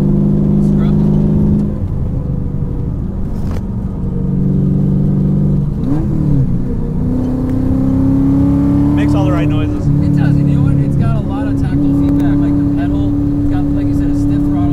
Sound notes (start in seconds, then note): 5.3 car makes great sound